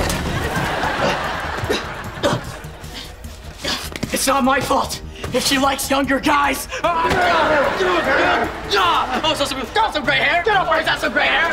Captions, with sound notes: [groaning] It's not my fault if she likes younger guys. [groaning] Also, not so great hair. Don't worry, not so great hair.